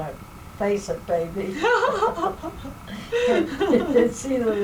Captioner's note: laughter